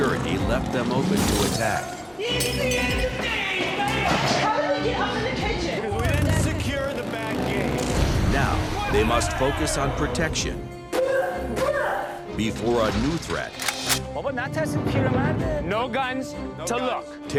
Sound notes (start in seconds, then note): 10.8 grunting; 13.5 gun cocks; 13.6 speaking foreign language